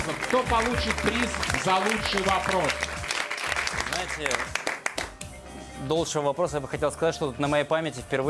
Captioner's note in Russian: аплодисменты